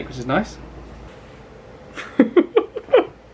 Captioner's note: laughs